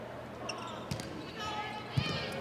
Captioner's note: ball thumping; players shouting indistinctly